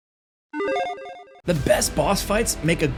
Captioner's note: soft beeping